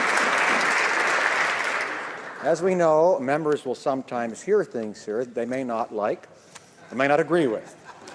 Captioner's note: applause